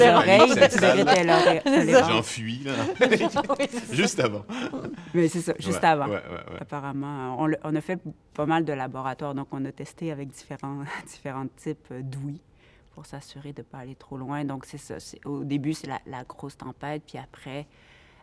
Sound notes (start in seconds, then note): 3.7 laughter